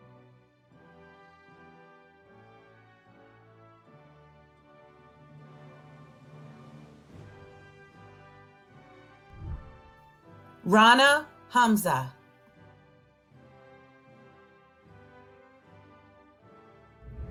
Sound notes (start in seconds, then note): 9.4 whooshing; 11.5 celebratory music